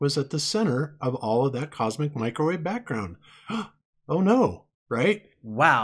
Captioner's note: fake gasp